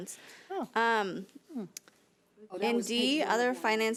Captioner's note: overlapping chattering